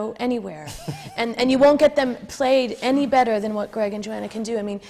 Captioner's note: laughs